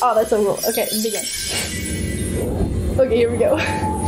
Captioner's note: wind whooshing